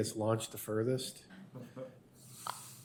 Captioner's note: laughter